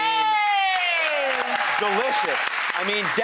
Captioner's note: clapping